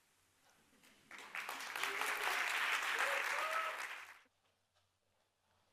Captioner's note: audience applauding